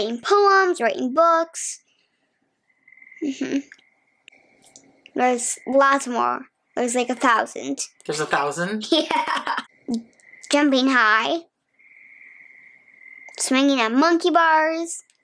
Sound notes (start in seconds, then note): 8.1 laughs